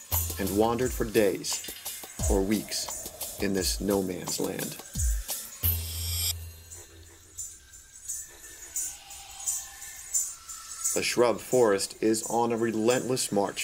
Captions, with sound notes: and wandered for days or weeks in this no man's land. (Bullfrogs croaking) The shrub forest is on a relentless march